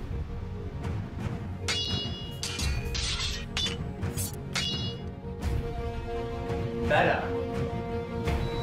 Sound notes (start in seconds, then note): 1.6 swords Clashing